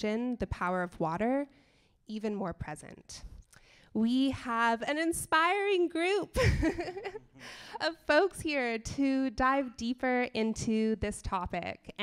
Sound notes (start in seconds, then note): 6.3 laughs